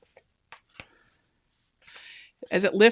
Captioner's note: paper cracking